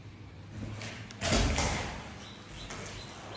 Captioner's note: clattering